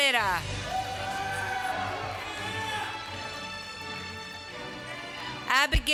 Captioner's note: applause